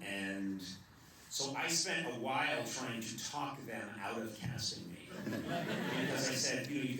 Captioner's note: laughter